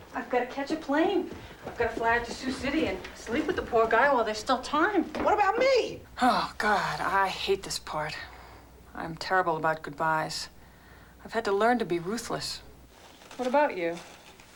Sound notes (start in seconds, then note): none